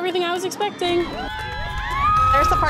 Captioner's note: screaming